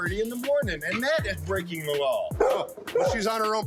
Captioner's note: dog barking